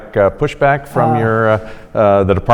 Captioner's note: sighs